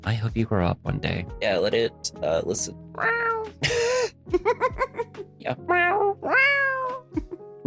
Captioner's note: cat noises